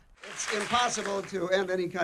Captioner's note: applause